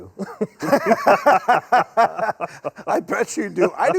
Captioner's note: doctors laugh